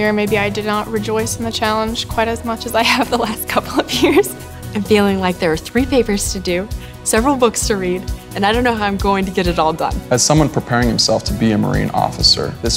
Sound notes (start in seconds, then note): 3.6 laughing